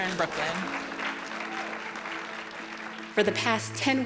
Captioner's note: group applauding